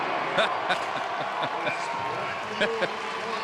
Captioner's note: happy Chuckles